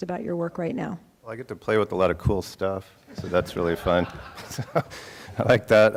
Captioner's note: laughing